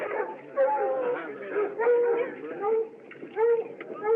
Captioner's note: dog Barking In Distance